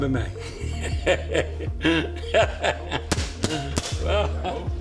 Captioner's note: laughs